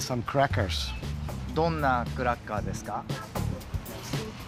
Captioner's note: speaking Japanese